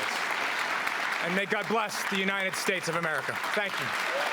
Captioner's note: applause